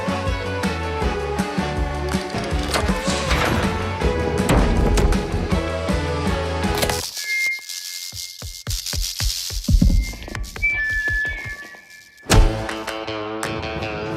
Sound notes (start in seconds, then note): 5.9 electricity sizzles; 7.1 microphone feedback